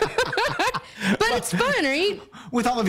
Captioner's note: laughter